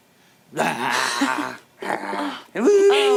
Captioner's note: silly noises